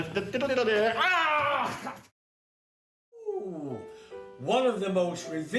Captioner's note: yells